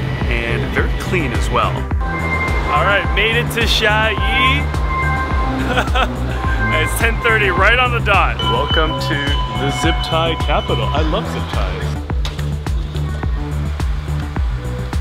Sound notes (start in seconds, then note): 5.5 laughs; 12.2 upbeat music